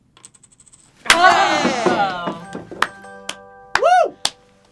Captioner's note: cheering